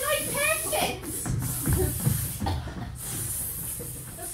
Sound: snake hissing

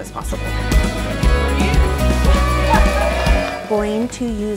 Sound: cheering loudly

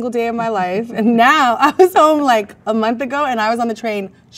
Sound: laughs

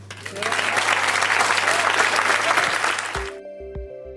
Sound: applause; gentle percussive music

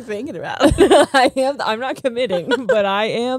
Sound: both laughing

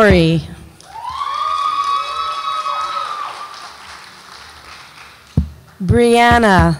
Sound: audience applauds and cheers

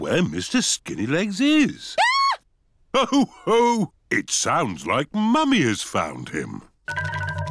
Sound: mummy pig screams

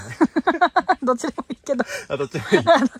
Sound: laughs

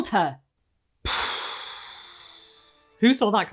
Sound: exhale

